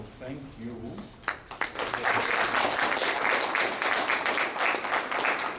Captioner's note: applause